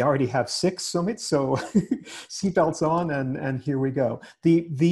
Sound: giggles

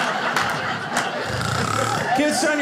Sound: mimicking snoring

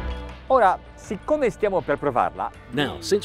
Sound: speaks in a foreign language

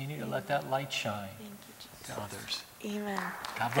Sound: applause

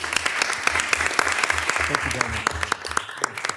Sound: all applauding

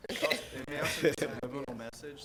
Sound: laughs

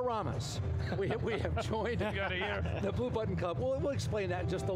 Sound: laughing

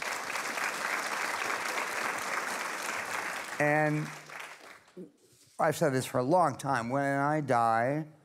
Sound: applause

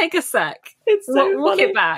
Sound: laughing

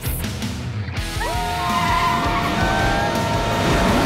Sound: all cheering

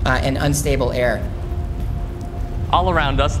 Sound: low rumbling

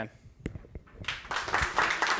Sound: applause

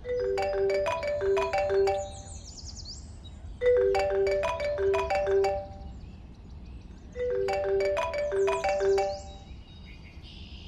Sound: phone Rings

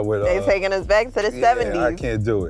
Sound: laughs

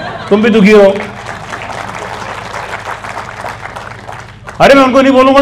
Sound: clapping

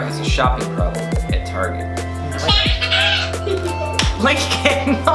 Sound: child making strange bird noises

